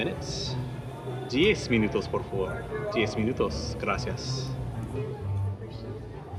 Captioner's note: speaking in Spanish; chatter